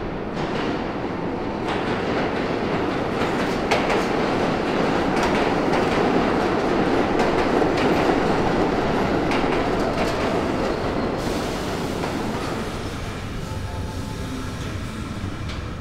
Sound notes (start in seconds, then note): 1.1 train arriving; 13.3 train brakes